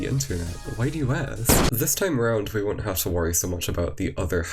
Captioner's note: explosion